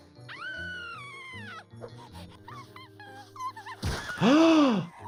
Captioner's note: giggles screams; doctor gasps